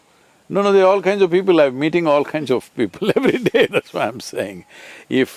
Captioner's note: laughs